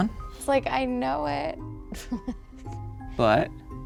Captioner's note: laughs